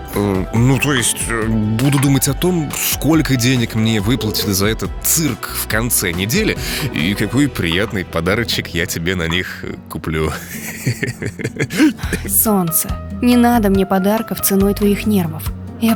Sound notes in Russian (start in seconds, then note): 10.4 смеется и икает; 11.4 вздыхает